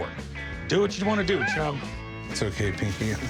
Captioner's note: dog whines